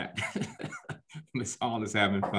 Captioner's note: laughs